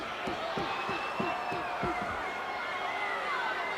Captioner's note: crowd jeers